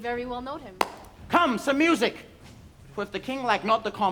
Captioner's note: claps